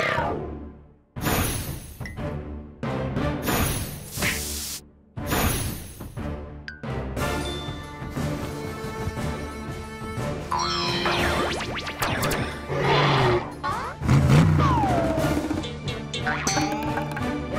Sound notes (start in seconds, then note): 12.7 all growl; 16.1 plucking